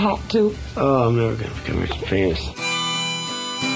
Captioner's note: voiceover; harmonica and guitar music